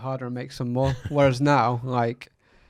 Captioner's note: laughs